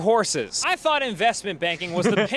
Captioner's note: group laughing